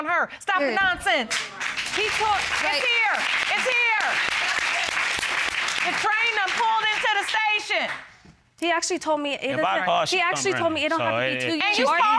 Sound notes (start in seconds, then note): 4.5 applause